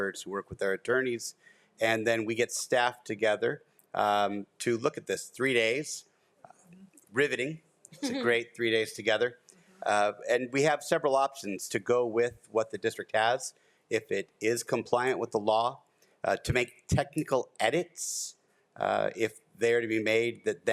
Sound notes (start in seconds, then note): 8.0 laughs